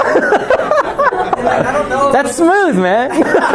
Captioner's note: laughter